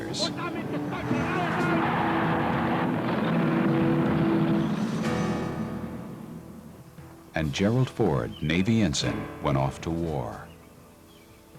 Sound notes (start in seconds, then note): 0.1 speaking German; 2.0 plane and tank engines roaring